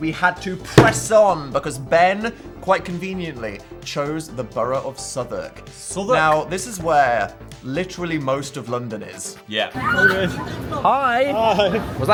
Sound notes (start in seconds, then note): 9.8 person squealing